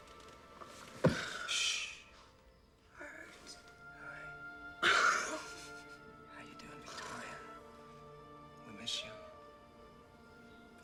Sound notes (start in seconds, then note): 0.5 gasps; 4.8 exhaled Laugh